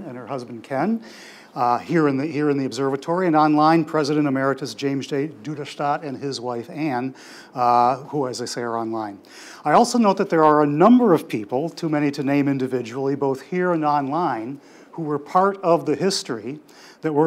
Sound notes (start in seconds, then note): none